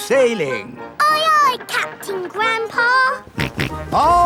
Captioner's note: snorts